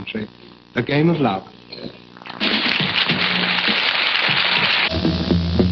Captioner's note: applause and music